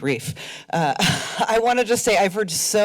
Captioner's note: chuckles